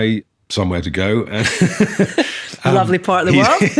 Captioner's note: laughing